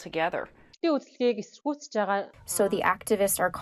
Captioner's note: through translator